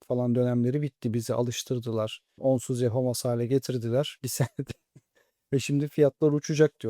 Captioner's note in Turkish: kahkaha